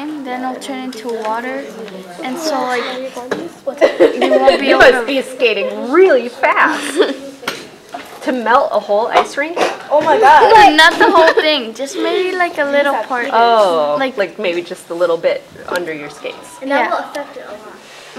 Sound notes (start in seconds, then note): 3.1 chatter